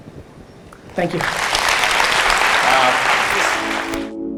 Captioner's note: audience applause